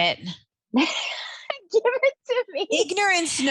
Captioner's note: laughing